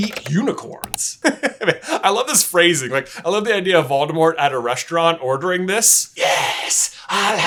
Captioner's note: laughs